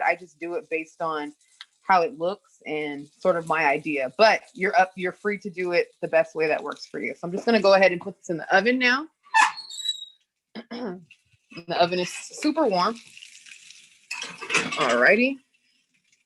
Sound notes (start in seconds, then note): 9.4 oven door creaks